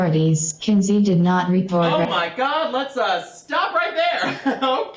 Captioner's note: breaking out of the robotic voice; hysterical laughter